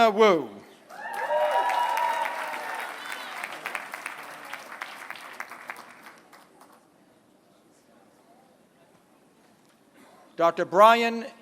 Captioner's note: applause